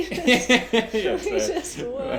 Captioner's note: laughs